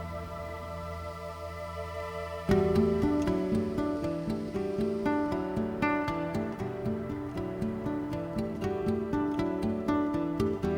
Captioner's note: soft breeze